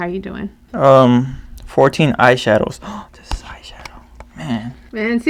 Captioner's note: whispers